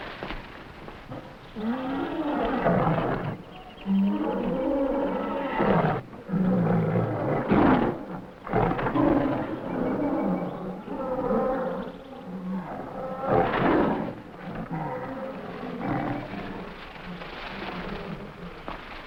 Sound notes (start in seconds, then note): 1.6 lions grunting; 1.6 gorillas groaning